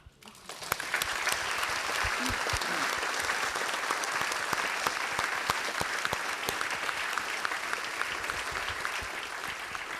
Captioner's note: audience applause